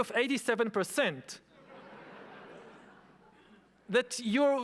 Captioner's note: audience laughing